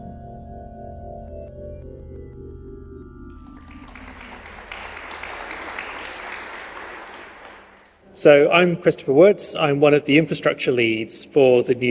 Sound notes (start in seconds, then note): 3.4 applause